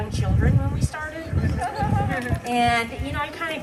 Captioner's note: laughter